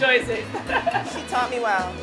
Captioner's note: laughs